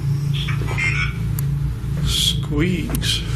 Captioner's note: device vocalising